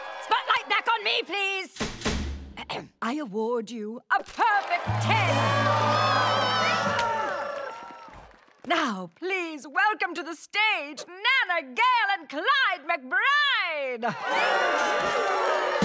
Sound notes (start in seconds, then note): 2.3 clears throat; 4.4 crowd cheers; 14.1 crowd cheers